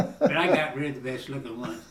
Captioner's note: laughing